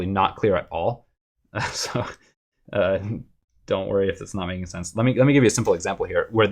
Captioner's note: laughter